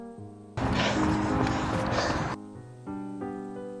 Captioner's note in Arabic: تنفس ثقيل